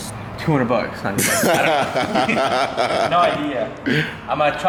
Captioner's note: laughter